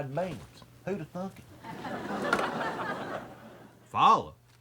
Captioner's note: audience laughs